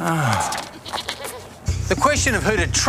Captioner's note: sighs; bleating